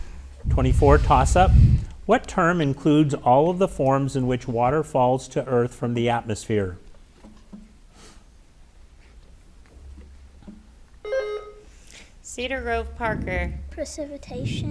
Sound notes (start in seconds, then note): 11.1 bell rings